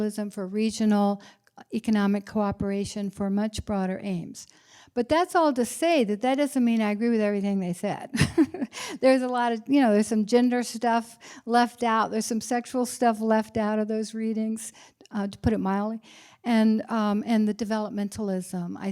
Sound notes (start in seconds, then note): 8.1 laughter